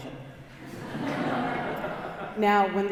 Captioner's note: congregation laughing